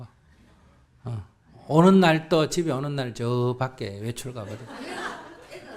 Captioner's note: audience Laughter